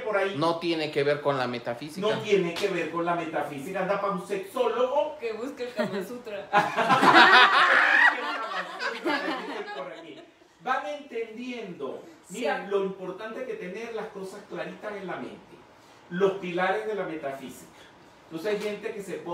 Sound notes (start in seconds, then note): 6.6 laughing